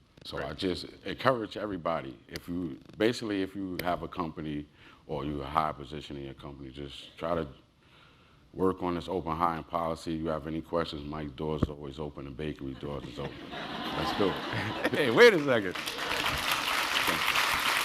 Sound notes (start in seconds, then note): 13.0 laugh; 14.5 applause